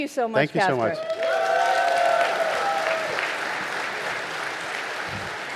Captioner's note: audience applauding